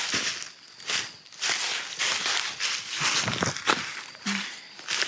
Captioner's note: leaves crunching